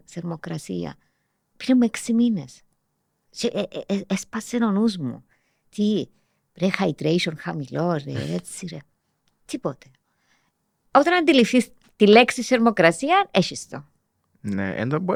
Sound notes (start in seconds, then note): 8.1 he laughs